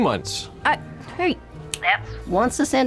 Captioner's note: snaps fingers